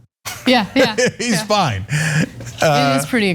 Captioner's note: laugh